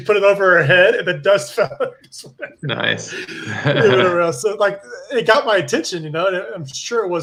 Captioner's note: laughs